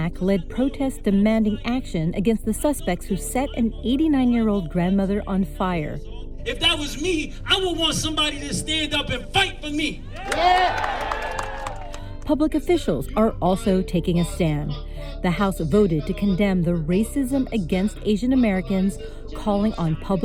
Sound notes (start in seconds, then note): 11.6 people applauding